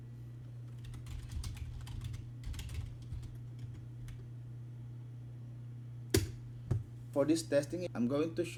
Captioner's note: typing